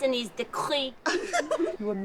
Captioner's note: laughter